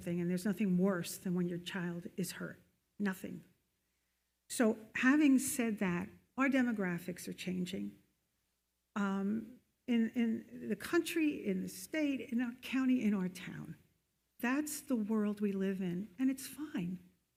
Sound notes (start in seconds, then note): none